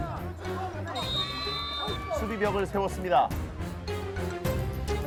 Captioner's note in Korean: 호루라기 소리